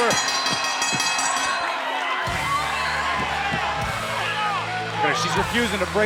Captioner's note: bell ringing